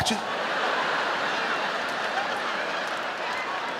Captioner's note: audience laughing